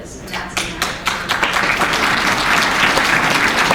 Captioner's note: applause